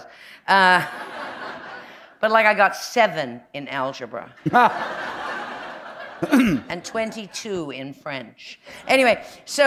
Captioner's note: laughter